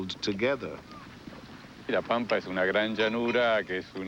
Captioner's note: speaking Spanish